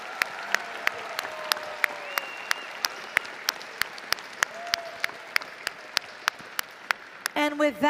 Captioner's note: applause & Cheering